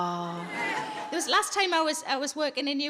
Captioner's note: audience laughs